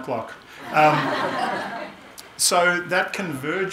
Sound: audience laughing

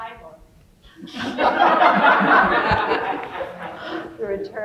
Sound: everyone laughing

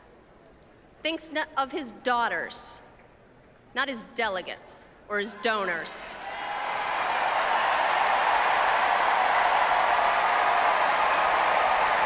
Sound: applause

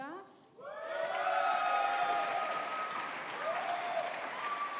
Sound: audience applauding

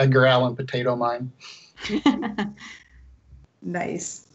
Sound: laughs

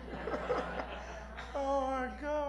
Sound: laughter

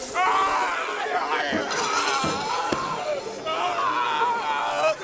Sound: shrieking

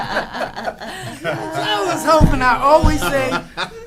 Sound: laughing

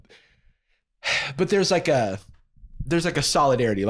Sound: sighs

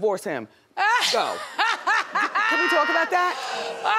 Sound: NeNe laughs

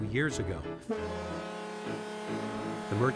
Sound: horn honks

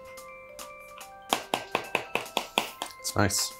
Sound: spoon tapping

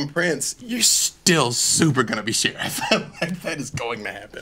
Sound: laughs

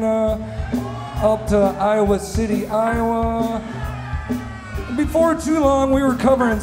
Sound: cheers

